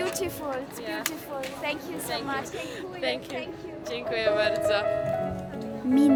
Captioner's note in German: auf Polnisch